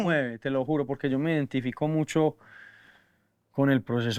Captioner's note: inhales